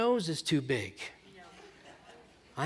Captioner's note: laughter